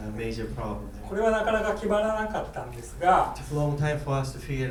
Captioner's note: speaking in foreign language